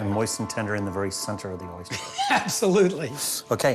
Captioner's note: laughing